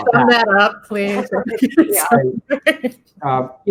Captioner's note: laughing